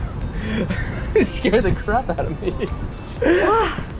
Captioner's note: chuckling; laughs